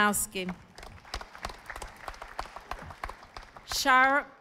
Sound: audience applauding

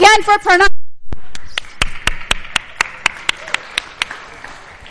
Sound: applause

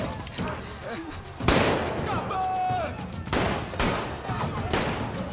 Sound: gun firing

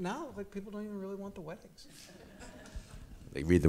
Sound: audience chuckles

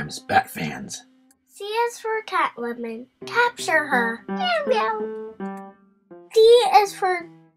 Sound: meow, meow

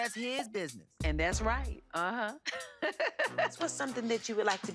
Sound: laughing

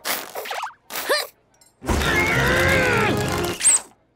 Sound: grunting

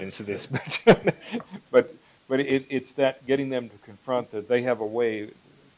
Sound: laughs

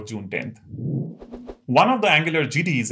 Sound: sound effect

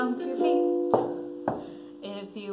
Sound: stomping

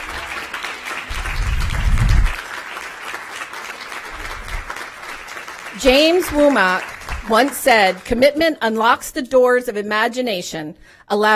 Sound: applause

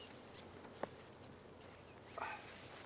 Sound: sighing

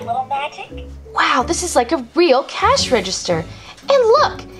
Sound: voiceover

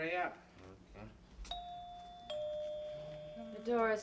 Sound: door bell

